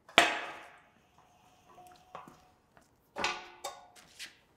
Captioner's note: metal thudding